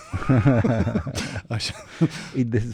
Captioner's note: laughter